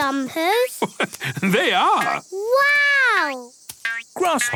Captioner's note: laugh